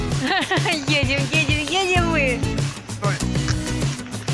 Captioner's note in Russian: смех